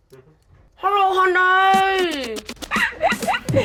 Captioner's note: giggling